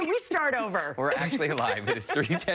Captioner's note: laughter